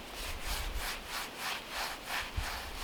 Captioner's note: none